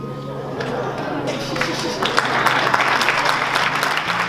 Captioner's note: laughing and clapping